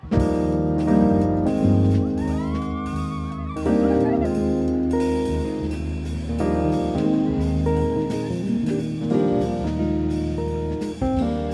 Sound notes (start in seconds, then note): 0.1 jazz music; 2.1 graduates cheering